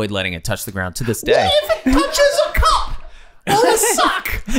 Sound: Charlie High Pitched; all laughing

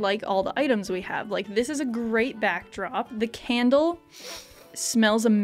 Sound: sniff

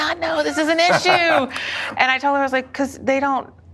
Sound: laughing

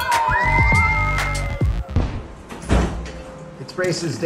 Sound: fun music plays; kids cheering

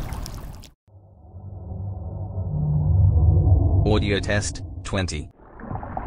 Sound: eerie ethereal transitional SFX

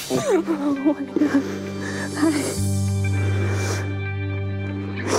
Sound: crying

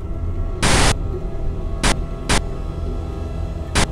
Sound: TV static buzzes

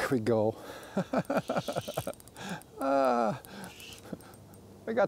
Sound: laughs

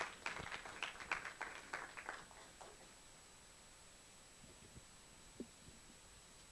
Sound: applause

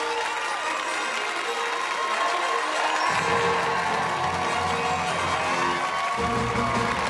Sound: fanfare; cheers and applause

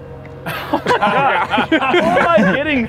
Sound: laughter

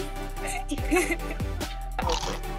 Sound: laughs; crunches on Pringle

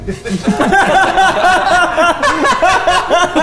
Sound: laughs loudly

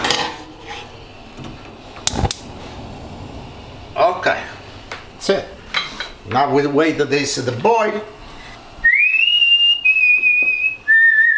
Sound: whistling

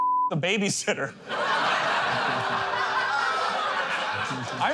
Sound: laughter

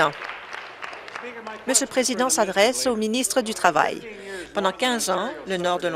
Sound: applause

